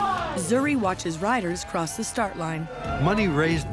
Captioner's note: cheers